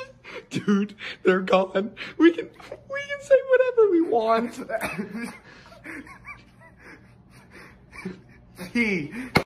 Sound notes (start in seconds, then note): 4.0 giggles